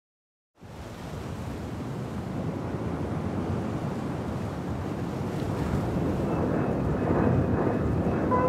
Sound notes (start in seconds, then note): 0.6 waves crashing